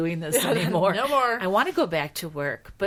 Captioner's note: laughing